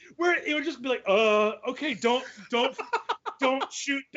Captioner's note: laughing